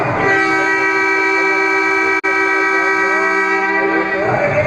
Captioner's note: loud horn